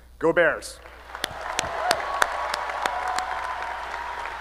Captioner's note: applause